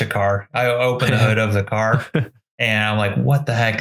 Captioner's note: giggles